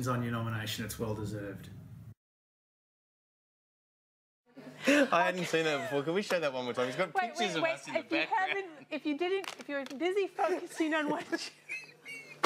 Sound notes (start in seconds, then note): 4.7 both laughing